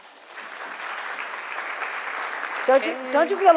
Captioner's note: audience applauding